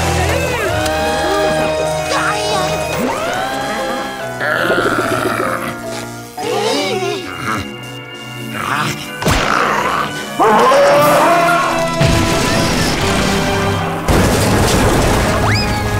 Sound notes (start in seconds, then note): 4.3 growling; 7.3 grunting; 9.2 growling